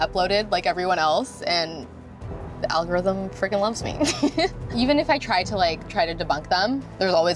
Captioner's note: laughs